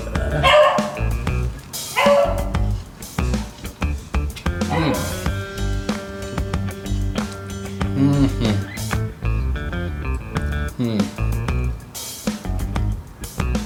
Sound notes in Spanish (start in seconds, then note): 7.9 Sonidos de éxtasis